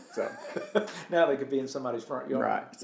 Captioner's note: laughs